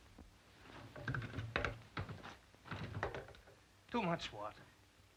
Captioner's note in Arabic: صرير السرير